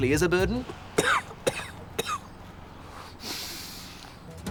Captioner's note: coughing